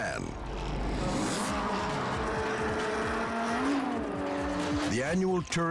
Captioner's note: engines rumbling